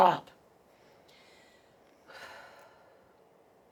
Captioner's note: sighs